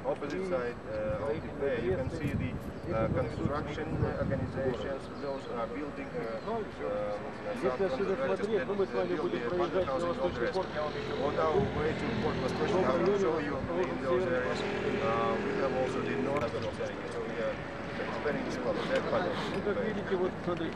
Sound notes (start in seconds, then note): 8.0 non-english speech; 10.5 chatter; 17.8 non-english speech